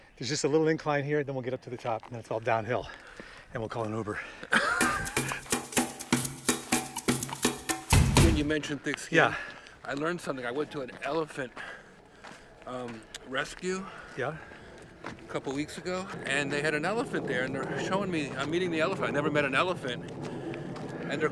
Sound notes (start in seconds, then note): 4.4 Jeff laughs; 4.6 upbeat music